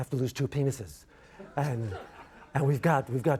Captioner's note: audience laughs